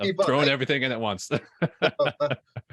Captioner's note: chuckling